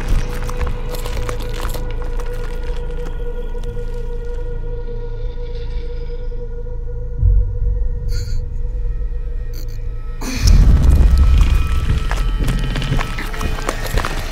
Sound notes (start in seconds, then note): 8.4 Andrew groans; 11.2 monster growling